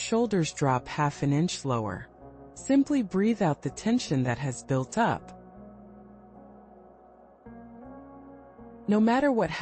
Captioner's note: pause